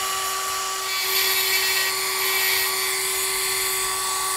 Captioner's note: whring